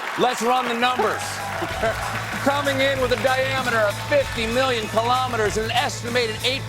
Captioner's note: applause